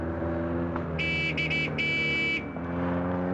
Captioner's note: honking